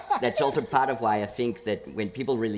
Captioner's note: laughter